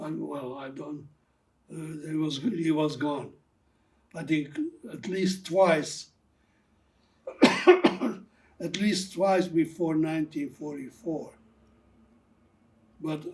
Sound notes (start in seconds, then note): 7.2 coughing